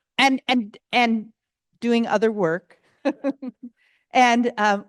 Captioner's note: chuckles